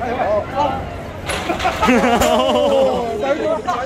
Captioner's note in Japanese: 笑笑笑